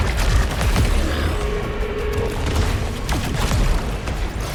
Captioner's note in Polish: pomruk